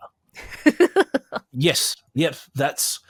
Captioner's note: laughs